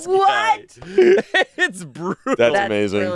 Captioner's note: laughs